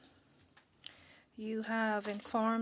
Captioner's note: speaking French